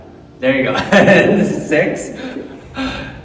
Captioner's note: laughing